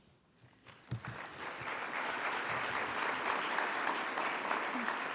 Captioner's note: audience applauds